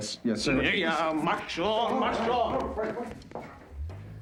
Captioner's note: speaking german